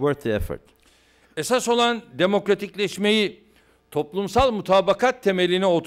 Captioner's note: non-english speech